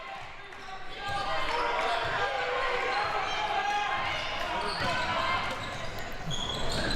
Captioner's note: audience chattering and yelling